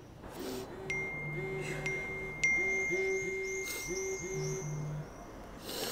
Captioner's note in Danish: Beskeder tikker ind